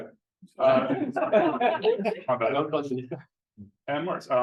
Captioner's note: laughter